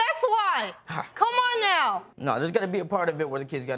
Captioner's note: sighs